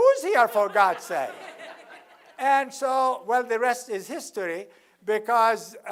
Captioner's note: laugh